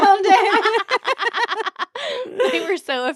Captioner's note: both laughing